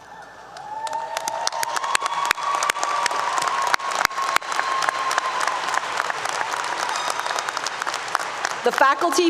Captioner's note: applause 👏 👏